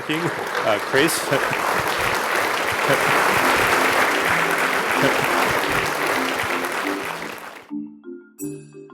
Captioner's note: applause